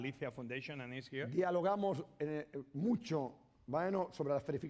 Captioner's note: speaking spanish